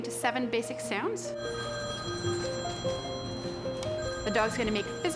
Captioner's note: phone ringing